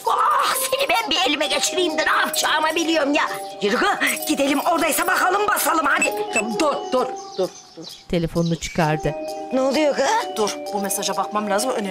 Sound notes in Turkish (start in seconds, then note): 5.5 Mesaj zili sesi